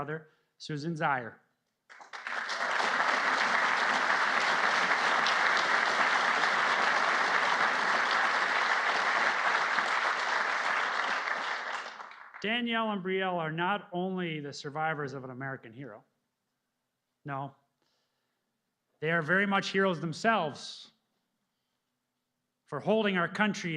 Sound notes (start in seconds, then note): 10.1 applause